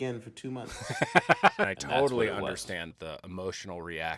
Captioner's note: laughs